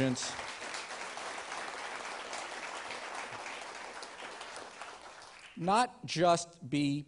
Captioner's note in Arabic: تصفيق